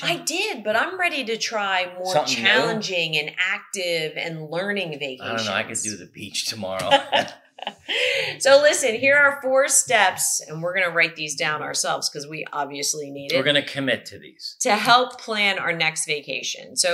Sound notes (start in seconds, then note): 6.2 laughs